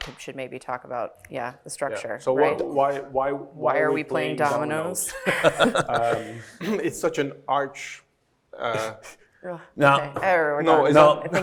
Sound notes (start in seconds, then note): 5.1 everybody laughing; 9.0 laughs